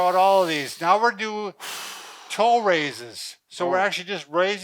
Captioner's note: exhales loudly